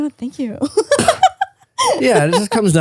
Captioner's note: laughing